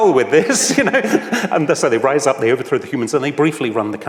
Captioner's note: laughs